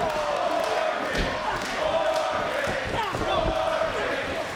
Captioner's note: crowd chanting